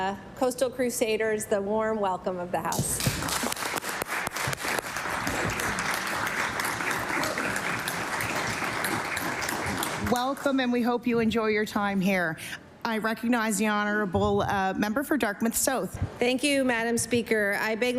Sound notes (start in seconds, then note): 5.7 applause